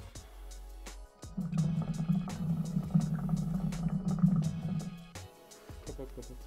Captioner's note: hookah sound